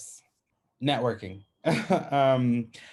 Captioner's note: chuckles